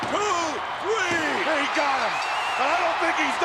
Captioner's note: bell rings and crowd cheers